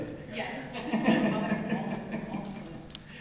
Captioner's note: laughter